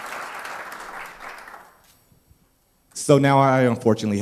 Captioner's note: applause